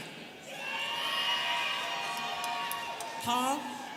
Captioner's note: students cheering